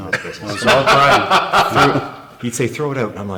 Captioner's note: laughing